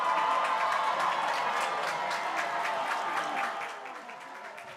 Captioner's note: graduates cheering